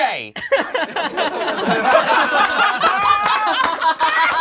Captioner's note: all laugh